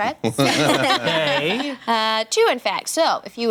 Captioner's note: laughter